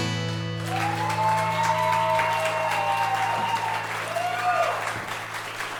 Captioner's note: guitar strumming; audience cheering and clapping